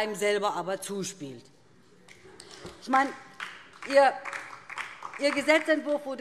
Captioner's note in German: Beifall DIE LINKE